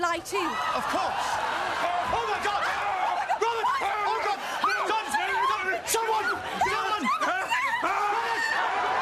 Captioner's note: screams; more screams